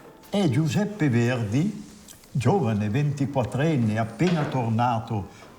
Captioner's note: speaks in foreign language